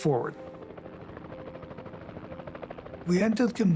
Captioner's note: chopper whirring